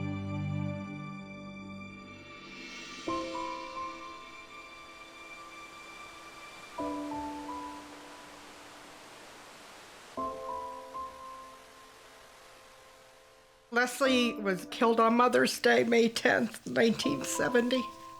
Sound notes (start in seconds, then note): 3.9 soft breeze; 6.6 water gently flowing